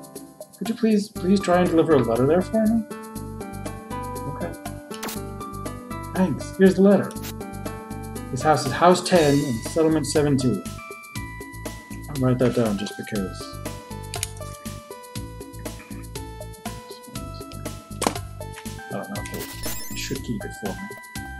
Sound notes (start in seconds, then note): 14.1 clicks pen